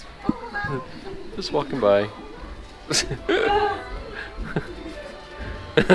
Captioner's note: laughs